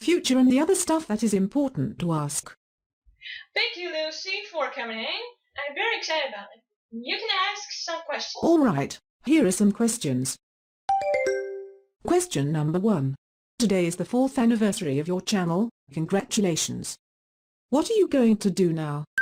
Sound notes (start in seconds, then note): 10.9 question ding